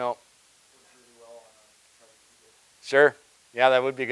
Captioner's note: person speaking quietly